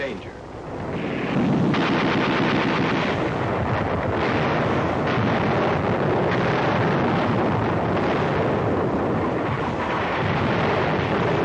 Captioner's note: sounds of artillery, shelling, gunfire